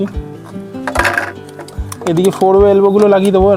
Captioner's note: sound of pipes being fitted